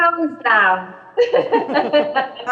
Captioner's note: laughter